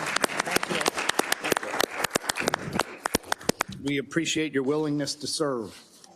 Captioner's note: applause